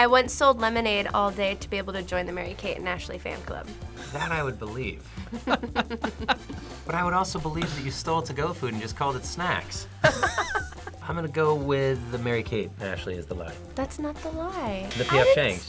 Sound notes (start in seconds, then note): 5.2 both laugh; 10.0 both laugh